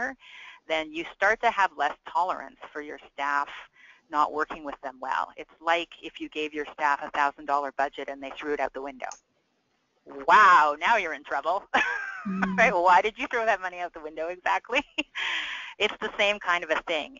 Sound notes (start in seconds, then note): 12.2 laughing